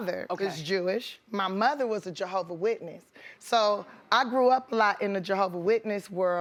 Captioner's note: none